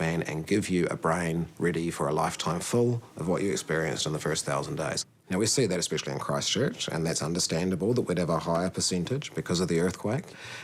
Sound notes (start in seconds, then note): none